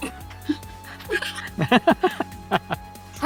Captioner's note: A couple people giggle